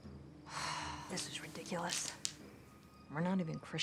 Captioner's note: beads clicking; sighs